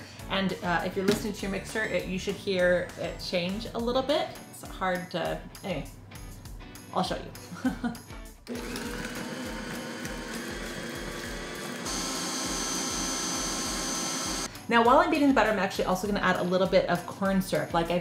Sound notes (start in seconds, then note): 7.5 chuckles